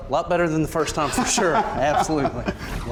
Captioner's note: laughs